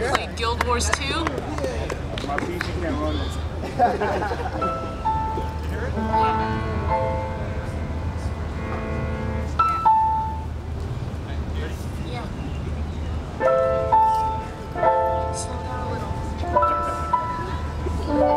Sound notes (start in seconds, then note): 3.6 laughter